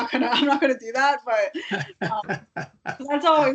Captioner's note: laughing